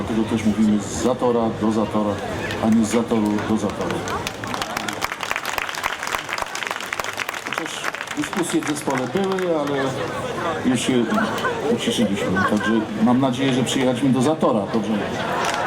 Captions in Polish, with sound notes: dlatego też mówimy z Zatora, do Zatora, a nie z Zatoru, do Zatoru. [OKLASKI] Chociaż dyskusje w zespole były, ale już je uciszyliśmy, także mam nadzieję, że przyjechaliśmy do Zatora? Dobrze mówię?